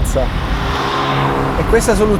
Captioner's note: car passing